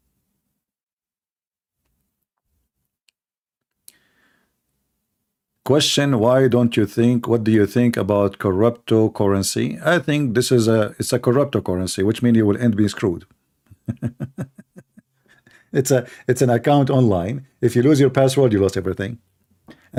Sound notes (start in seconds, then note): 13.7 Ketawa